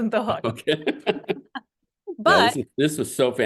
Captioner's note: laugh